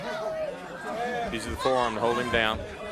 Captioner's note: crowd chatter